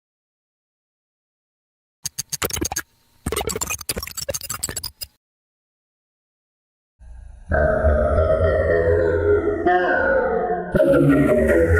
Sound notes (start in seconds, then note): 3.2 electronics garble; 7.4 dark electronic music